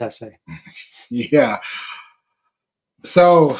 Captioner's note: chuckles